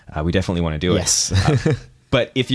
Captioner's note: chuckles